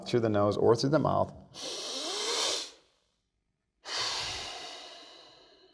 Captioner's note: inhales and exhales